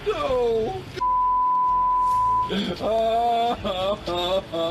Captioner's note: sobbing